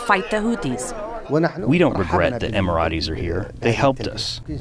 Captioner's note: through translator